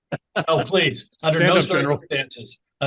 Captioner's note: laugh